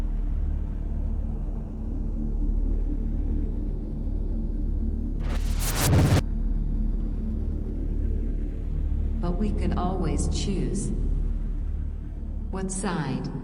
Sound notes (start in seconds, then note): 5.2 screen crackles